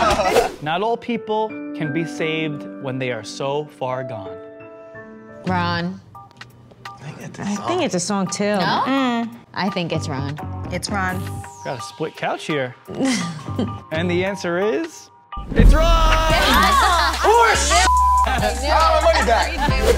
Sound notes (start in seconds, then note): 0.1 group laughs; 0.9 gentle piano music; 7.0 upbeat music; 12.9 Deena laughs; 15.7 group yells and laughs; 17.8 beep